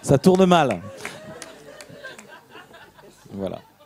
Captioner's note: laughs